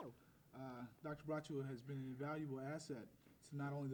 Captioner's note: second man talking